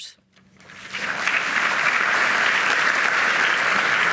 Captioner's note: audience clapping